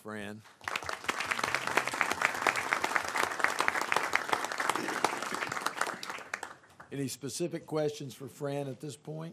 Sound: applause

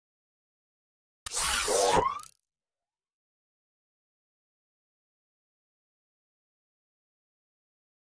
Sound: sound of robot

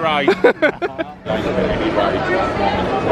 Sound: laughing

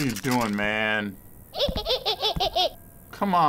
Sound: Tattletail laughs creepily

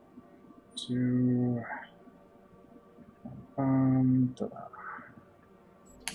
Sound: counting wordlessly

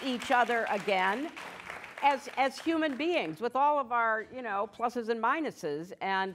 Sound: applause

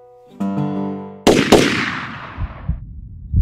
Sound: gunshots

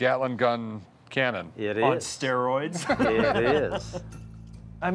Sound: laughs

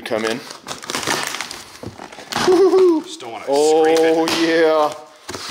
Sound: tape being ripped

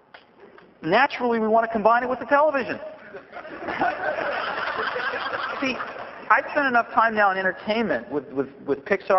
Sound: laughter

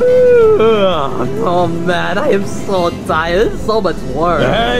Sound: yawning

